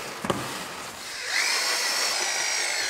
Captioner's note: motor screeching